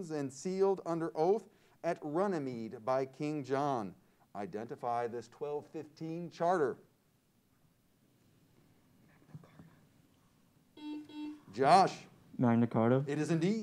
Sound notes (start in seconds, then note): 10.8 buzzer sounds